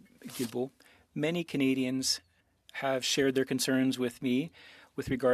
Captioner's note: speaking French